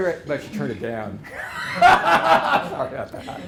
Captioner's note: laughter